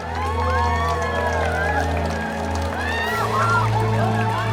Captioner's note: crowd cheering